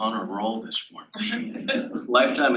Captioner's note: laughs